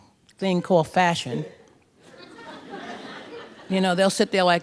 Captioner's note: laughter